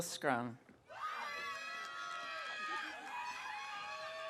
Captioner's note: audience cheering